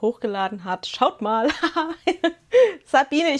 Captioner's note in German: gelächter